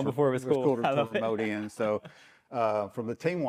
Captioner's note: laughs